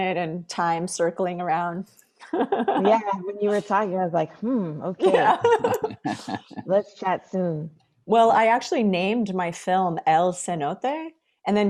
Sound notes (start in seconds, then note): 2.3 laughs; 5.0 laughing